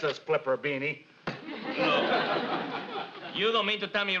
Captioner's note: audience laughs